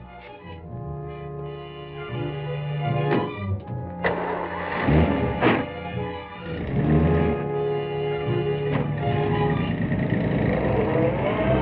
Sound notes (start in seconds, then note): 4.0 engine starts; 7.8 engine rumbling